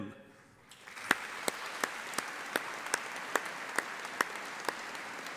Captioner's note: audience applauding